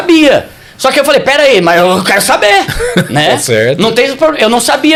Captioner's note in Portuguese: risadas